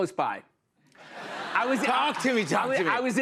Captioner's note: laughter